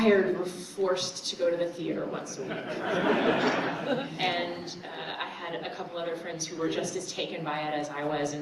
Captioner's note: laughter